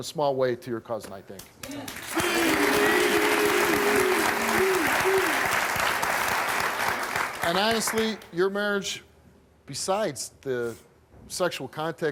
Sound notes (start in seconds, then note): 1.9 cheering